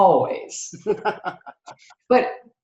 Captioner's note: laughs